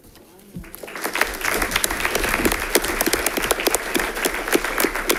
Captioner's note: audience applauding